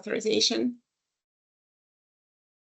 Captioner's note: silence